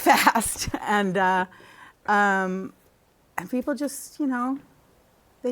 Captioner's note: laughter